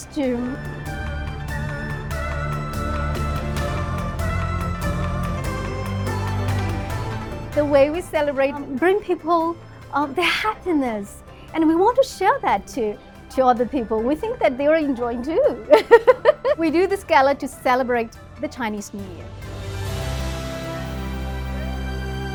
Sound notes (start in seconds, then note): 0.3 lively music; 15.7 laughs; 19.8 warm music